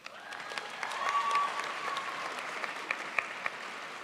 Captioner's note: crowd applauds